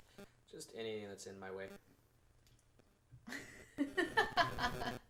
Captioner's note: laughs